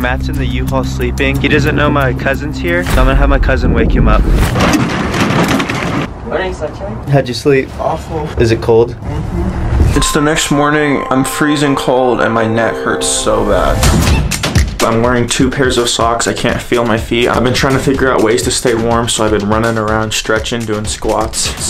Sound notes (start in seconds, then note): 4.5 door rattles; 13.9 upbeat dramatic music